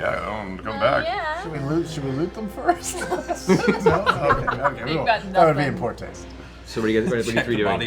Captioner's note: laughs